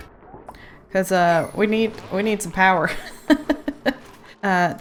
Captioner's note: laughs